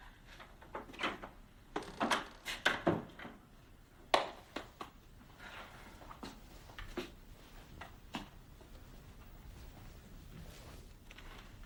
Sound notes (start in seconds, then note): 1.7 door snaps shut